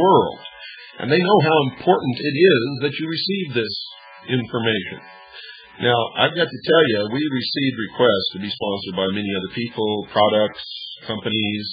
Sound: laughs

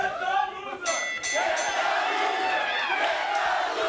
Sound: bell dinging

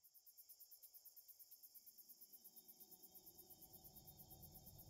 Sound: insects chirping

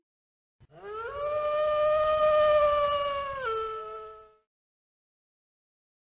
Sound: wolf howl

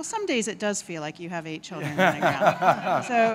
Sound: laughter

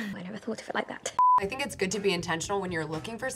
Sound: beep

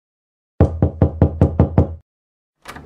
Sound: knocking; door opening

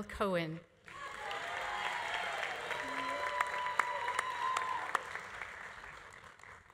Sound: audience applauding; audience cheering

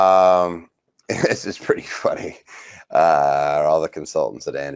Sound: laughs

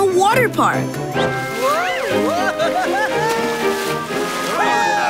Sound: laughing

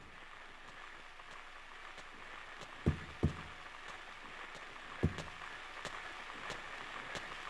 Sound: footsteps and radio static builds

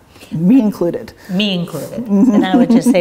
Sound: laughs

